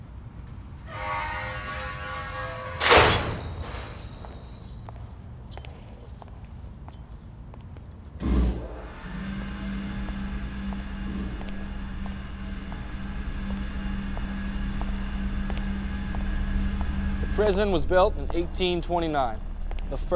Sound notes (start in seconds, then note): 0.9 gate clanks dramatically; 3.2 echoing footsteps; 8.2 lights whirring